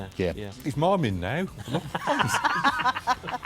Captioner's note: laughing